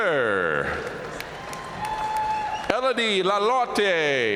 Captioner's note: audience cheering and applauding